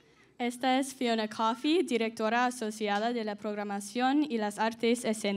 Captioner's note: speaking in Spanish